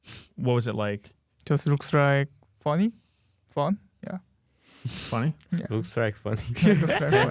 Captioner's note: laughs